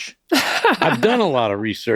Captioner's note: laughs loudly